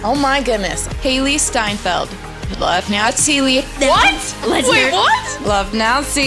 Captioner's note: backwards recording play